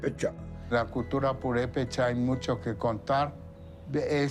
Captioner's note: in Spanish